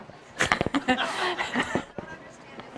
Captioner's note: laughs